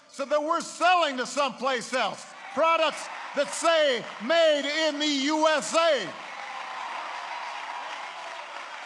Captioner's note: applause